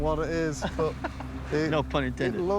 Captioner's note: laughs